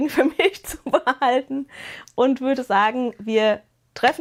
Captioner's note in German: gelächter